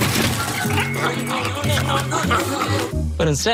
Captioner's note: garbage disposal grinding credit cards